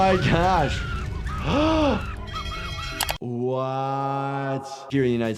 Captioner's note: gasps